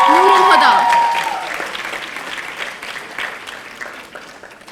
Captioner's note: audience applauding